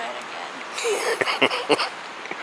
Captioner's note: laughing